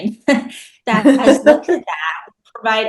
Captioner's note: laughs